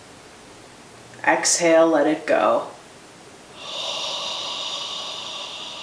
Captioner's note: exhales